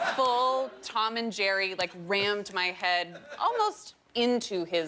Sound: laughter

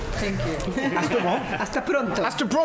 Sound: Spanish; laughter

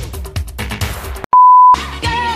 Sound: beep

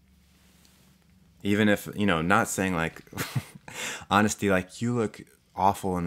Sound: laughs

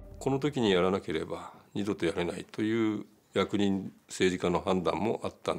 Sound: speaking in foreign language

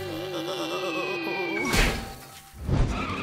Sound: groaning

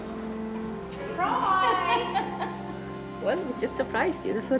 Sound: laughs

